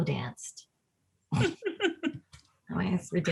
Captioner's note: laughs